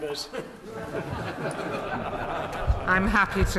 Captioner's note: members laugh